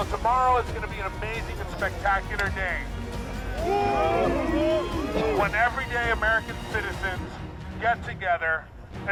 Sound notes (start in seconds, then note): 3.3 crowd howling